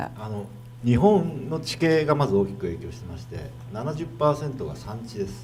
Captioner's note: speaking foreign language